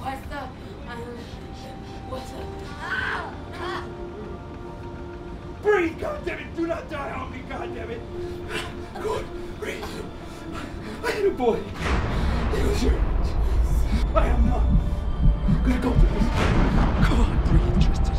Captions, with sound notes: (screaming) Breathe, Goddamn it! Do not die on me, god damn it! Good. Breathe. I had a boy. He was your age. I am not gonna go through this again. Come on.